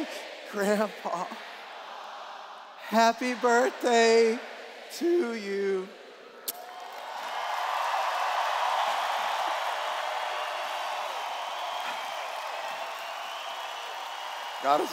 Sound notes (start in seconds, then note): 7.8 cheers